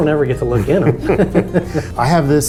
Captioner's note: both laughs